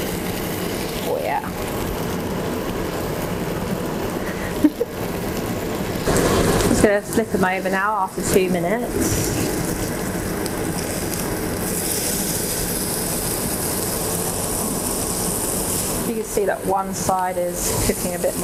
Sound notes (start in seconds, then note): 4.2 chuckles; 10.2 lamb sizzling